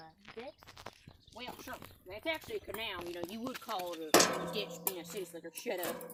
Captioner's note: shovel clangs; kicks pipe